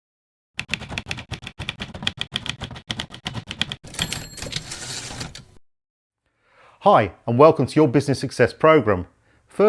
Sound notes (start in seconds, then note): 0.6 typewriter keys clacking; 3.8 carriage return bells ringing